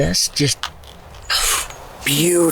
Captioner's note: deep exhale